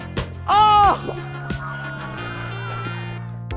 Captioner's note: people cheering; upbeat music